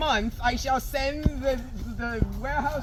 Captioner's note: stammering